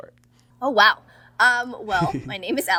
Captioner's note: Hyram laughs